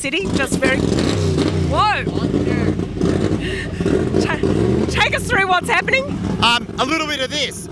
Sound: loud engine starts

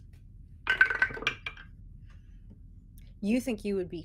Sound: dice rolling

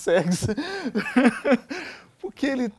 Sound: both laugh

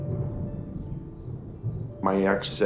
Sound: storming

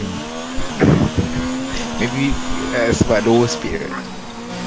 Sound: laughs

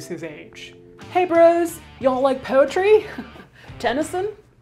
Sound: chuckles

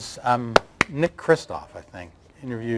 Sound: claps hands

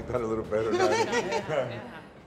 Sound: laughter

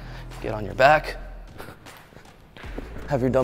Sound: panting

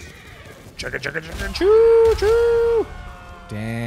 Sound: mimicking train sound

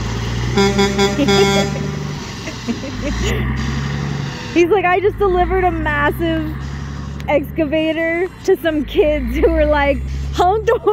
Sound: laughter

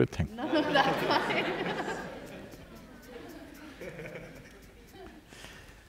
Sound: laughter

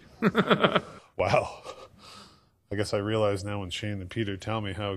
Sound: laughing

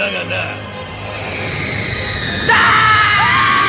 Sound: SFX: spell sound

